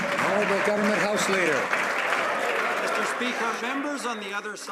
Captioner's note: some Applause